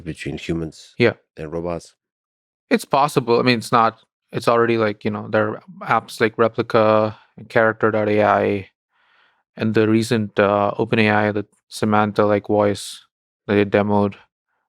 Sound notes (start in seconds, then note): none